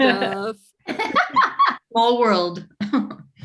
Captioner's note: group laughing